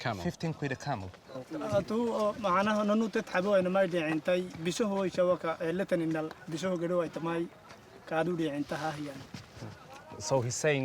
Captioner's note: man speaks in local language